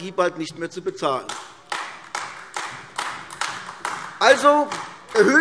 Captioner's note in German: Beifall AfD